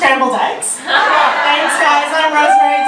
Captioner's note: audience laughter